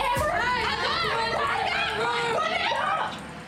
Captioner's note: shouting